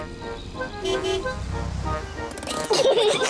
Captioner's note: honks horn; peppa and george giggle